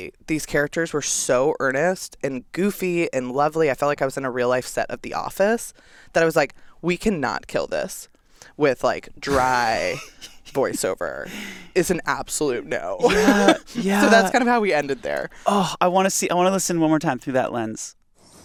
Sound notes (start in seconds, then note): 13.0 chuckles